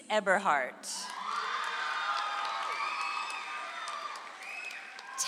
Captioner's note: audience applauds